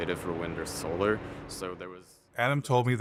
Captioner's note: voice fading out